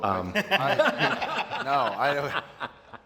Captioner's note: laughter